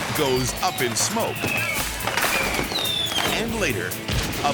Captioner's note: fireworks popping